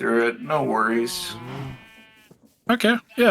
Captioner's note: sheep baaing